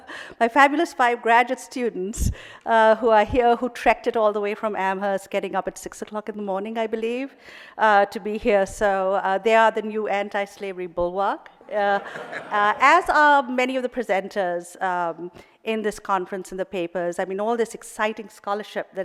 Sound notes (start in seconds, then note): 11.9 audience laughing